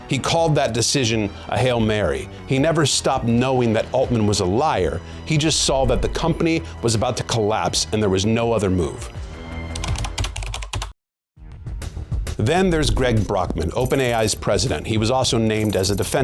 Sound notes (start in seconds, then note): 9.5 keyboard clacking; 11.9 upbeat music